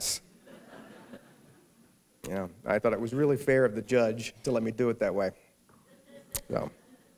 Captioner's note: laughter